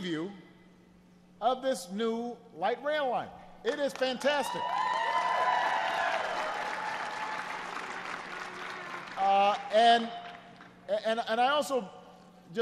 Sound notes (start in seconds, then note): 9.5 applause